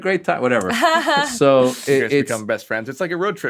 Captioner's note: laughing